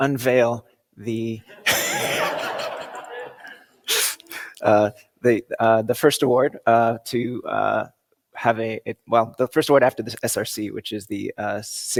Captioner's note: laughter